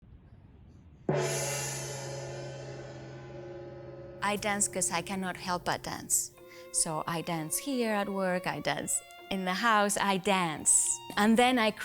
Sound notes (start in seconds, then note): 1.1 gong rings